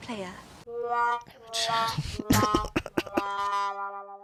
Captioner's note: sad trombone; laughter